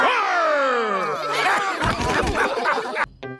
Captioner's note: all laugh